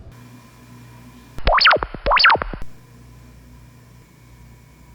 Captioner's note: electronic buzz